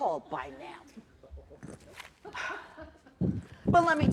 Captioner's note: laughter